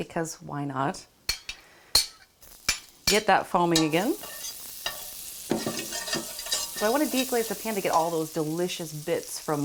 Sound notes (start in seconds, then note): 4.8 butter sizzles